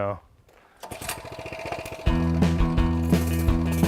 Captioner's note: motor sputtering; upbeat music